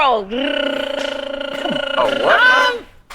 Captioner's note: tongue rolling